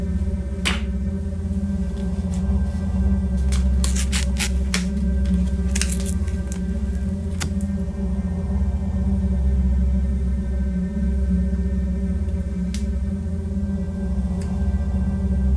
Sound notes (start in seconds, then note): 0.6 clap; 3.4 ripping; 7.6 haunting music